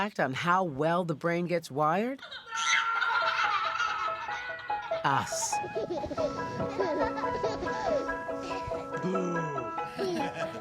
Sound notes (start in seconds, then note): 3.3 baby laughs; 6.5 baby laughing; 7.9 bright music